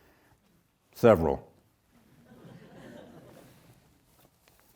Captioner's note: audience chuckles